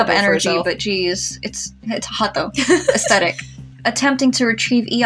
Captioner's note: laugh